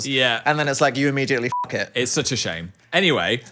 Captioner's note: beep